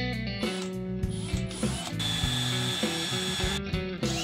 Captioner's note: drill whirring